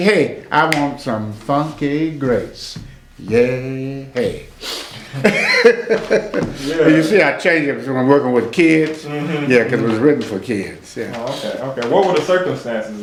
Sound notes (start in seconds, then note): 9.0 laughs